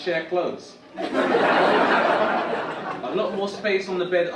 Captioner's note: audience laugh